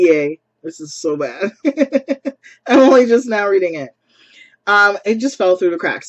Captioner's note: laughs